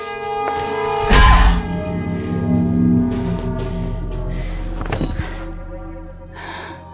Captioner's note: suspenseful music; Ally grunting; bat thudding